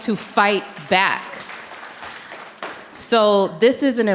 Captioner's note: audience clapping